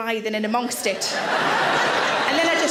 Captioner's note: audience laughs